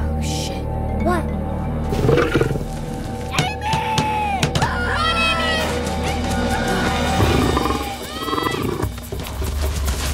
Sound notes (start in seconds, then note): 1.9 Growls